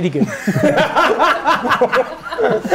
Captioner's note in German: Gelächter